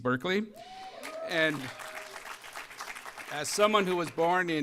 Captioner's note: applause